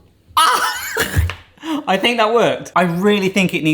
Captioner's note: laughs